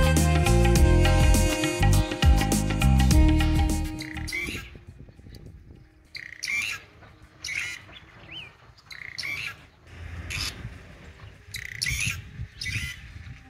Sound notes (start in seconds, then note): 0.0 chill music; 6.1 bird with loud call